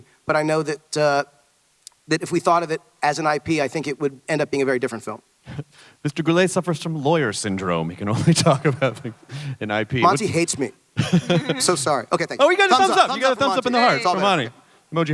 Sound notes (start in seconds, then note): 8.2 chuckles